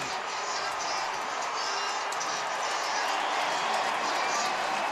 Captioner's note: pa announcement